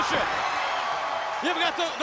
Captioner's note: crowd cheering